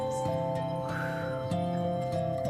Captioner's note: exhale